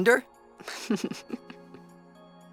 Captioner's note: chuckling